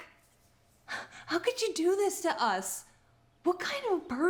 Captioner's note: scoffs